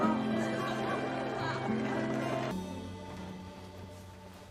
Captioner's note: group laughing; gentle music